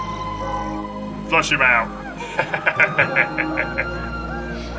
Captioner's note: mischevious laughter